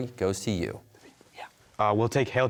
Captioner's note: whispering